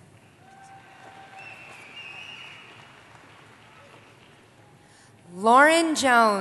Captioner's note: applause